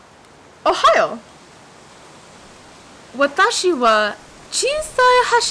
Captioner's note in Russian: пытается говорит по-японски